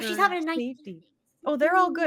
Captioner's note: audio cutting out